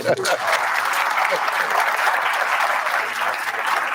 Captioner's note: round of applause